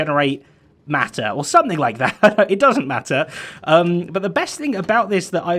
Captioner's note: chuckles